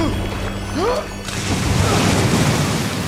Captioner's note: Bol exclaims; water splashes